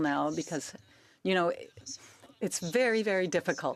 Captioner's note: speaking French